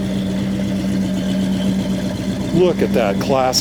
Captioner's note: engine roaring